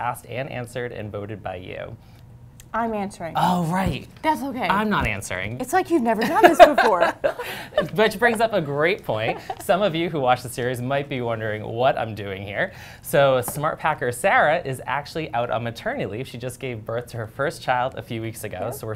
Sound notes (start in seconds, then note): 6.2 laughter